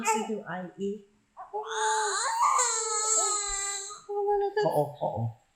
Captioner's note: baby crying